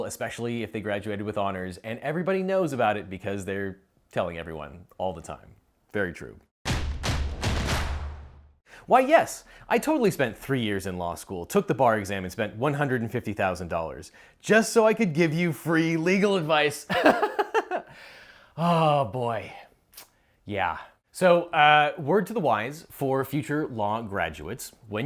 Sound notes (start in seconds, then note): 6.6 drums beat; 17.0 laughs